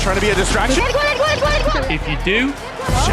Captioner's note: in Indonesian